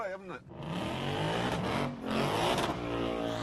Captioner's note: engine revving